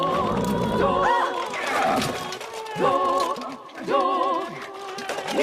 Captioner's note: screams